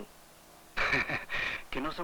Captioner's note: the doctor laughs